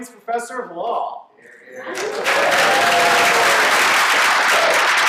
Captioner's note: applause